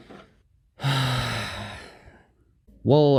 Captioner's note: sigh